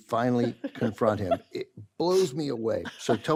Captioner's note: carol laughs